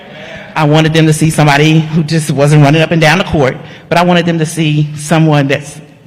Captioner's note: none